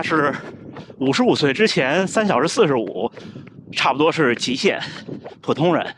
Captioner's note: slurred